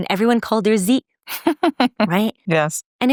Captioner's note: laughing